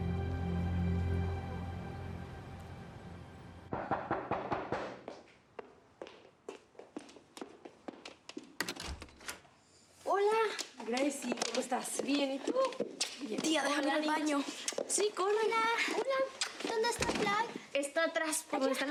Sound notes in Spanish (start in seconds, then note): 3.8 toques en la puerta; 8.6 sonido al abrir la puerta